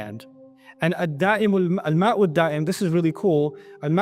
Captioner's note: Arabic; Arabic